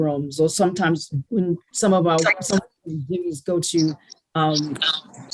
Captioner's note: audio glitches